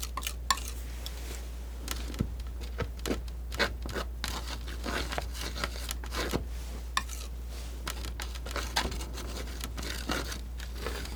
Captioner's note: scratching